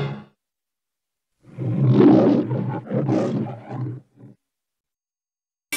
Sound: Leo the Lion roaring

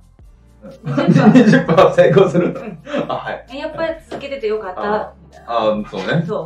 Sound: laughs

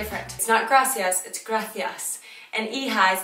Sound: speaking foreign language; speaks in foreign language

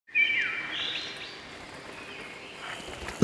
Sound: nature sounds

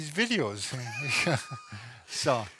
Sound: both laughing

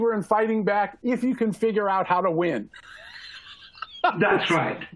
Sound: laughter

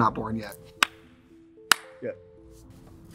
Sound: Katya claps

